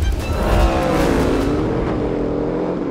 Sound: engine roaring

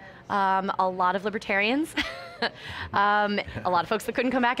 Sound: laughs

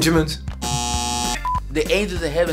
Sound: buzzer sound

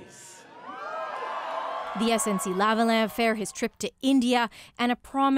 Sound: applause

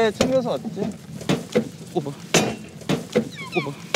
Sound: thud

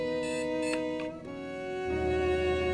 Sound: alarm beeps and then turns off

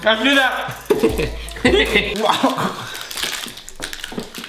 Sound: giggling

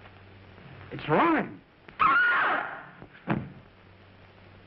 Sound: screaming

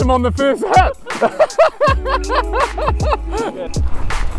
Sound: both laugh

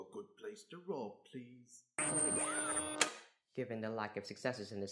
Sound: high pitched sci-fi noises, followed by a clicking sound

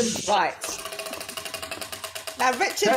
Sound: wheel ticking

